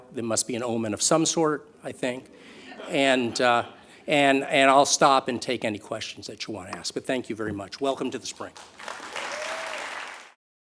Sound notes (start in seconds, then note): 8.5 audience Applause